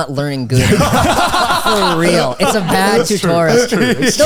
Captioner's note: all laughing